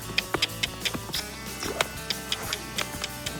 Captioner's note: clicking